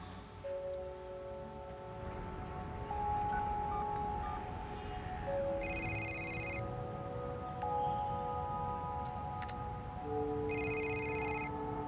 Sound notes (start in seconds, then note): 0.1 melancholic music; 2.9 dialing; 5.5 ringing; 10.3 ringing